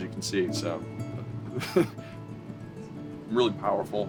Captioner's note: laughter